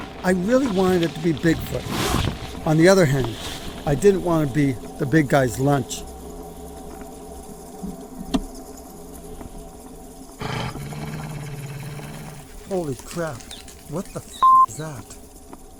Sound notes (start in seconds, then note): 10.4 low growling; 14.4 beep